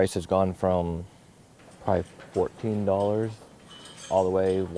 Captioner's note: birds chirping